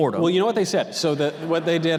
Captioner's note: audience laughter